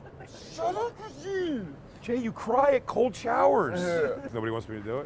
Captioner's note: laughing